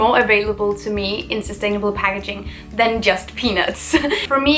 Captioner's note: laughs